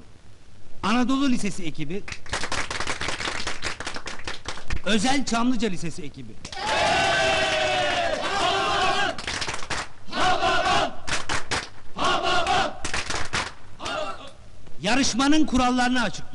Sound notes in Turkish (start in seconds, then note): 2.0 alkişlarlar; 6.4 hep bi̇rli̇kte bağirirlar